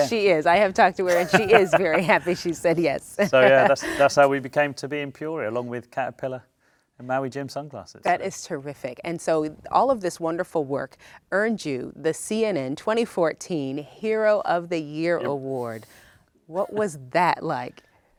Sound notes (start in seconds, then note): 1.0 laughs